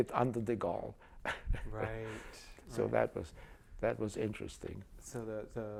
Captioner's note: laughs